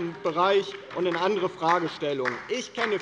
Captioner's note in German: Beifall bei der LINKEN